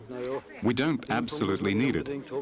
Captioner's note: speaking in foreign language